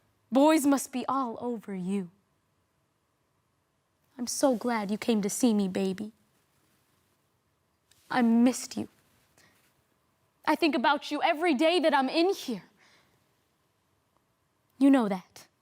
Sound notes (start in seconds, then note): 2.2 silent; 6.3 rustling; 9.1 soft breathing; 12.9 silent